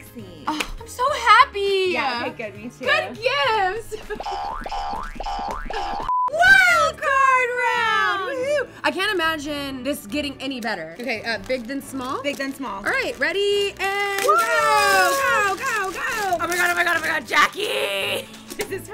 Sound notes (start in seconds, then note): 4.2 spring bouncing; 6.1 short beep; 15.8 tearing paper